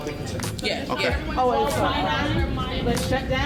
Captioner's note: people chattering